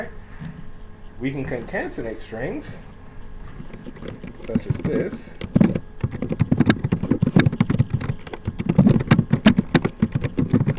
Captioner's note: typing sounds